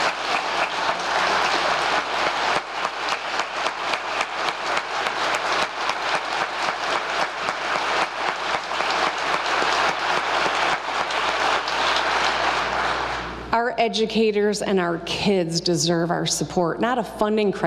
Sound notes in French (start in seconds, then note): 6.4 applause